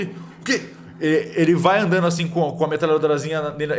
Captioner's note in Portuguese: none